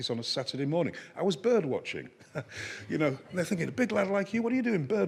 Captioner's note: chuckles